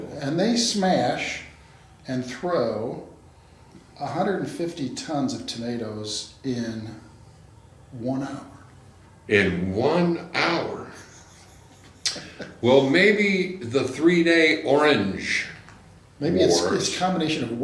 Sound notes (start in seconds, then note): 10.9 laughs